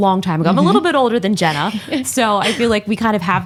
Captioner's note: laughs